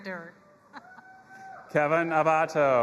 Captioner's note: audience cheering